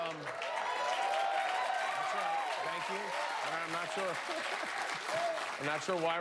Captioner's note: cheers and applause